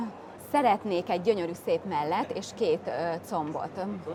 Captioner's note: speaking native language